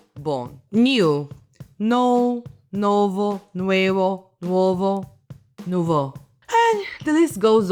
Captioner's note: Italian; Spanish; Spanish; Italian